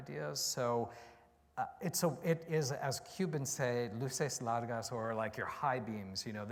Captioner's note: spanish